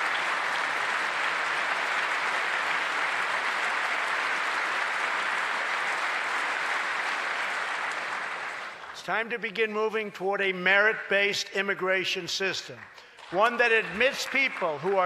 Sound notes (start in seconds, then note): 0.0 applause